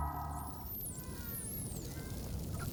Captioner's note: dolphins clicking, calling